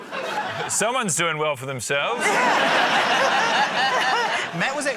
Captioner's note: laughter; laughter